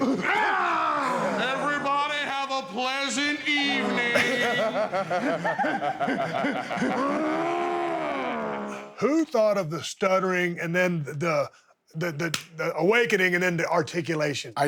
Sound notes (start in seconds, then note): 0.1 Dudley growls; 5.3 Dudley growls; 5.3 Dudleys laughing